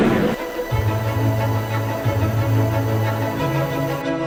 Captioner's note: flame whooshing